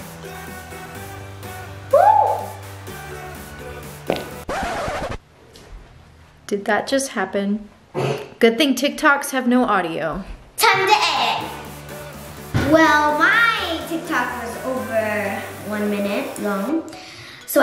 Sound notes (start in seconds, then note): 2.0 cheers; 4.4 flatulence; 4.4 record scratching